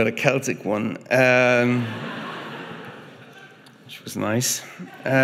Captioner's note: audience laughing